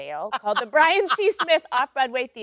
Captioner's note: Sheryl Lee laughs